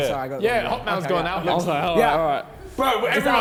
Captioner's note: men jeering; men chattering